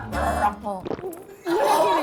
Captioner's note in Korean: 꿀꺽